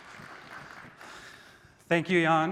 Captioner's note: applause